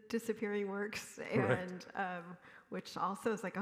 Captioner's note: chuckles